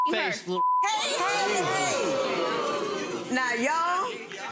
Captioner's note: audience oohing